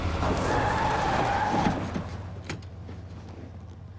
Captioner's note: tires screeching